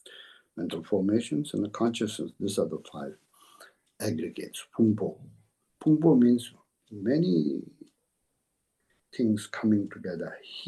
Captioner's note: tibetan